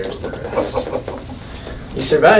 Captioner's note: patient's quiet laughter